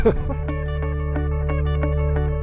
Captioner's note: laughter